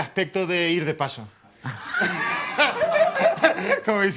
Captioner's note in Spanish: Risas